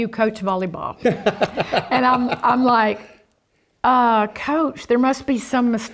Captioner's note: laugh